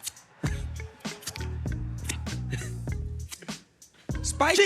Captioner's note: imitating racquet hitting ball